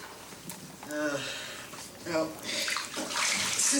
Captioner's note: water splashing